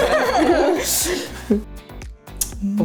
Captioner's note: laughter